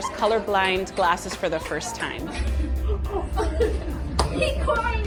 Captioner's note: crowd laughing